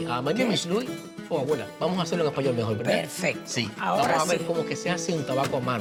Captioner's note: speaks Spanish